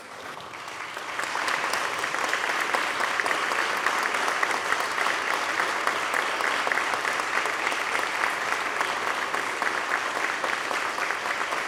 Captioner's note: applause